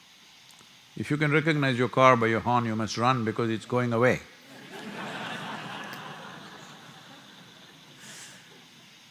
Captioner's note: laughter